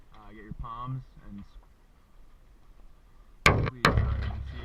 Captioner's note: camera hitting side stay